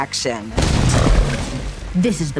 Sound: wall crashing

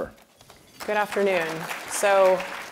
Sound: applause

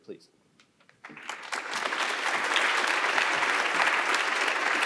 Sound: audience applauding

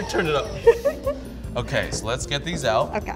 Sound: laughs

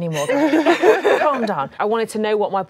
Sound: laughing

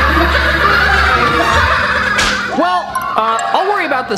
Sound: laughter sound

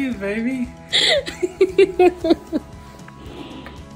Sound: laughing

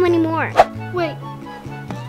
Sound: air whooshes

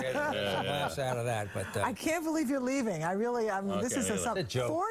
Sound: laughter

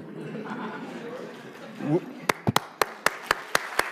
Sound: applause

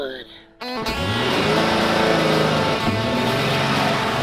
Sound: revs engine

